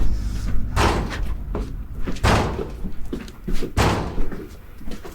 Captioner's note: object thumping; footsteps clomping